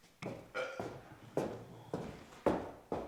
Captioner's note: belches